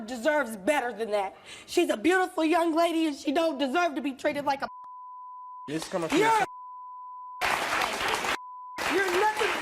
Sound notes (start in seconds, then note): 6.4 beep; 7.4 audience applause